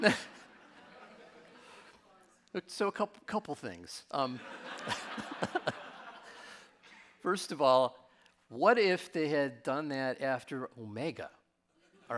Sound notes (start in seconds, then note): 0.0 laughs; 4.3 audience laughing